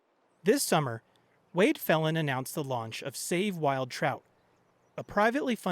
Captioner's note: voice-over